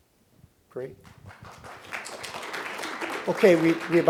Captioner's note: applause